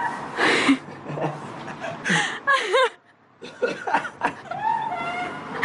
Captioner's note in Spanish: La risa